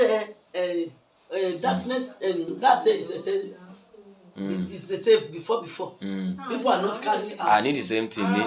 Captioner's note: talking